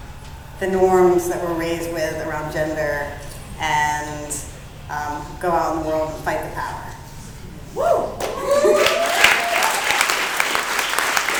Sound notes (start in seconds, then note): 8.2 clapping